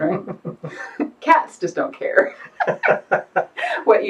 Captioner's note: laughs